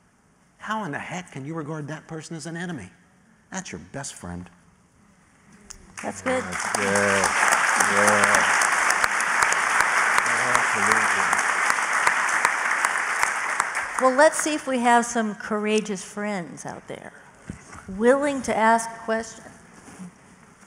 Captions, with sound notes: how in the heck can you regard that person as an enemy? That's your best friend. >> That's good. >> [APPLAUSE]. >> Absolutely. >> [APPLAUSE] >> Well, let's see if we have some courageous friends >> out there willing to ask questions.